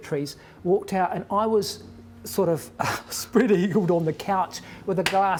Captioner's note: chuckles